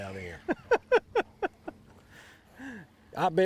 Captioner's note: laughs